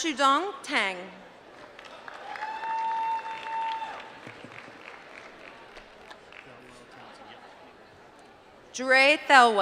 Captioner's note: applause